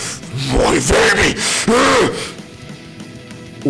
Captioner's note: grrrah!